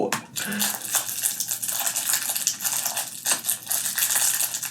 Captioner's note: crumpling plastic